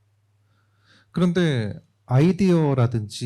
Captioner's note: speaking korean